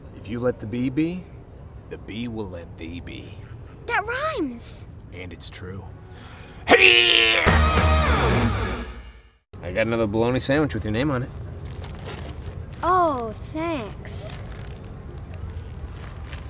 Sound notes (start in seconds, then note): 6.6 dad grunts